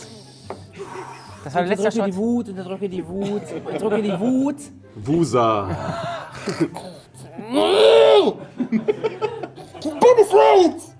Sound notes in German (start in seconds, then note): 5.6 Lachen; 5.7 Verärgerter Laut, Lachen